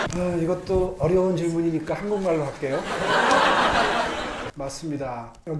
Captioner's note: everyone laughing; Mayor Oh speaking in Korean